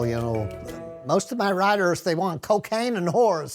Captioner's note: in american accent